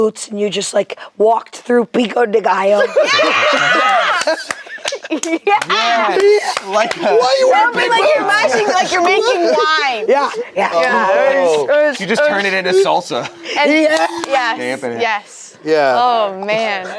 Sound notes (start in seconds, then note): 3.9 group laughs